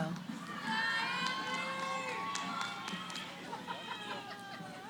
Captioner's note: cheering; background conversations